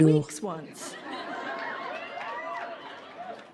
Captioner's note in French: des rires